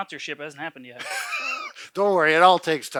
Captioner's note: laughs